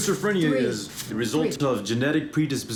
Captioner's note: plastic ripping